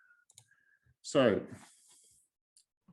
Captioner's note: mouse clicking